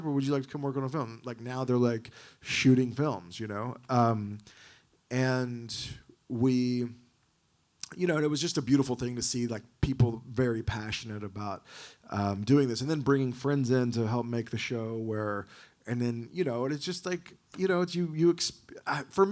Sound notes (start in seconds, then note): none